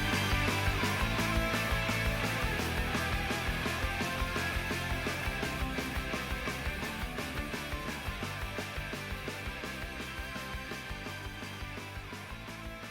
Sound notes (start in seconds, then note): none